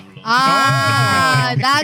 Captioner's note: speaking Spanish